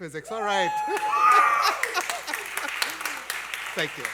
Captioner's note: applause and Cheering